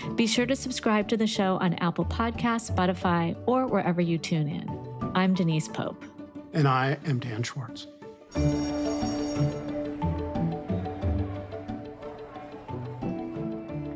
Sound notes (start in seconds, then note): 8.3 school bell rings; 8.4 gentle music